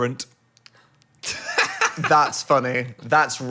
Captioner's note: laughs